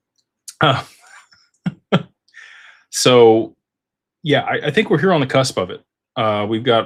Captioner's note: laughter